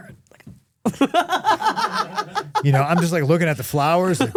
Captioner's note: Steph laughing